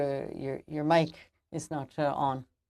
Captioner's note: speaking French